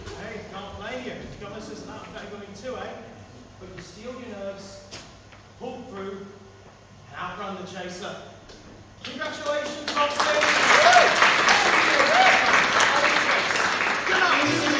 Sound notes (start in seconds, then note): 9.2 audience applaud